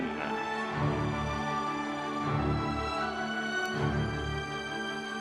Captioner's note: audience members cheering